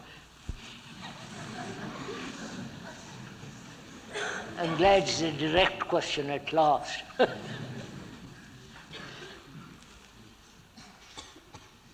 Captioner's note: laughter